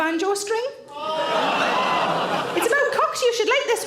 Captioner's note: audience laughs